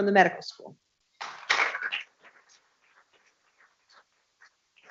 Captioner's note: people clapping